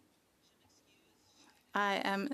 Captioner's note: speaking French